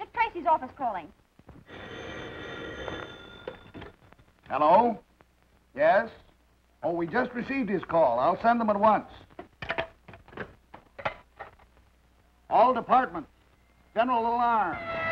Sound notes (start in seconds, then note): 1.6 phone ringing